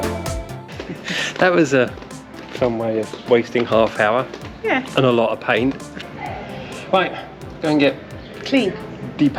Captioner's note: laughter